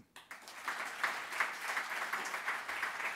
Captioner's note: applause